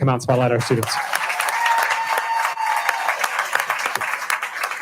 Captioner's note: cheering and applauding